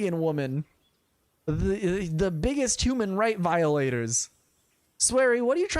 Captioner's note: stutters